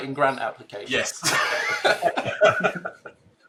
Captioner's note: laughs